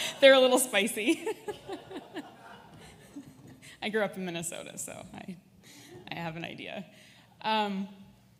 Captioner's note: laughter; audience laughs